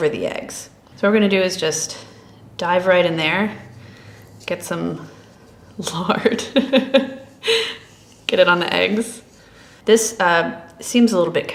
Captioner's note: chuckles